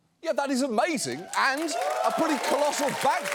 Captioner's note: audience cheering, applauding